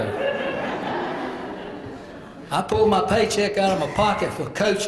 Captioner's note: laugh